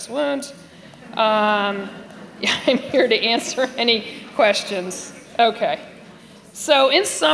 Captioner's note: laughter